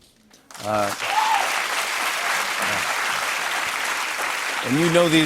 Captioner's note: applause